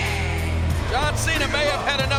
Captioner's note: audience jeers